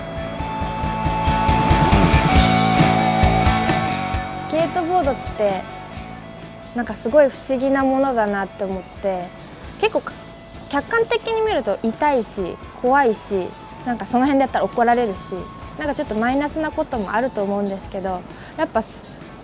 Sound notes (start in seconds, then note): 1.4 upbeat music; 4.6 speaking in foreign language